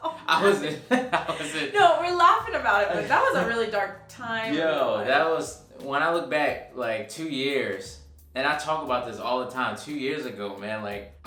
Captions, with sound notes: - (laughing) - I was (chuckles). - (laughing) No, we're laughing about it, but that was a really dark time. - Yo, that was. When I look back like, two years. And I talk about this all the time. Two years ago, man, like,